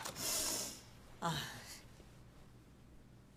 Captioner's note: exhales deeply